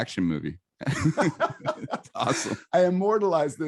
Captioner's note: both laughs in chorus